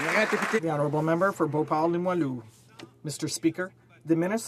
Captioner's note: some Applause